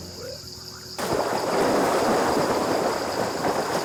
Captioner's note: water splashing